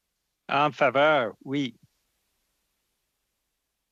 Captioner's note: speaking French